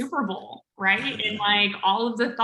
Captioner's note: laughs